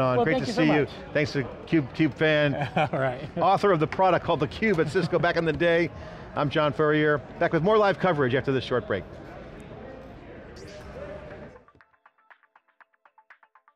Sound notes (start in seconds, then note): 2.5 laughing; 10.6 light digital music